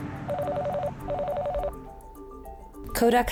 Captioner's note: phone ringing